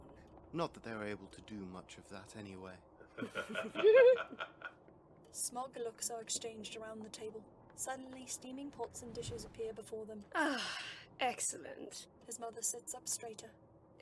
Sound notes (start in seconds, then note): 3.1 more laughter